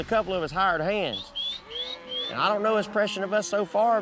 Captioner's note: whistling